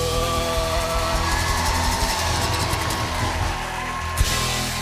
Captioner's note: cheers and applause